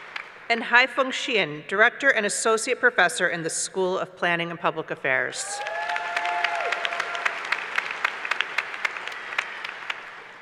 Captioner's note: applause